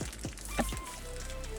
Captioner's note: crackling